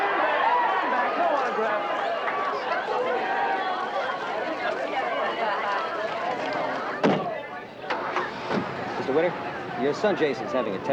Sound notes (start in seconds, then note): 7.9 engine ignition starting